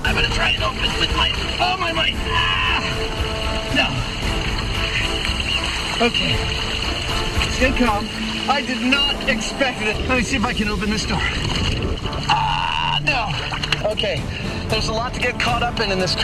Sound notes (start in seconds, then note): 2.2 shouts loudly